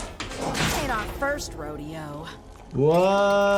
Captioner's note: metal clanging